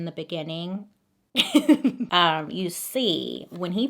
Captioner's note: laughs